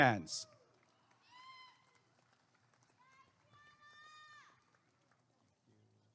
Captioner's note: applause and cheering